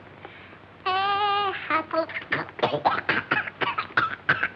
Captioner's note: singing; coughing